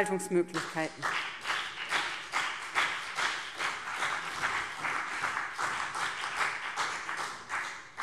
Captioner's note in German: Beifall BÜNDNIS 90/DIE GRÜNEN und vereinzelt CDU